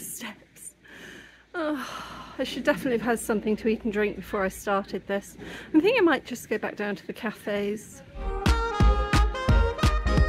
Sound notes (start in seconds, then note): 1.6 sigh; 8.1 lively music